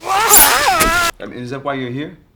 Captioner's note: slashing and thudding